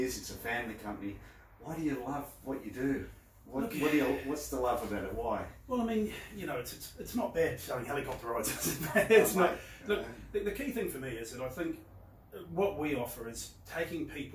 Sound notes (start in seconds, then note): 8.4 laughs